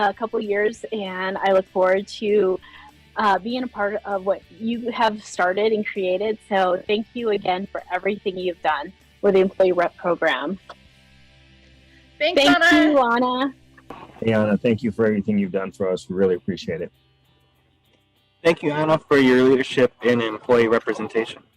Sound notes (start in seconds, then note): 10.9 speaking together